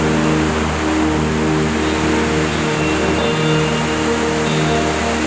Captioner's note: river splashing